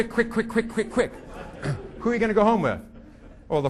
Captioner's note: audience laughing